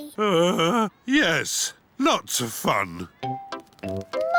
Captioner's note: groans